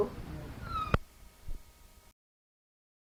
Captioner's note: buzzing